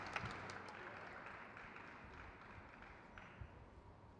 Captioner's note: crowd cheers